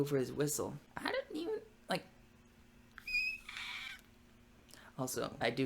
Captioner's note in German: kreischt mit pfeifender Stimme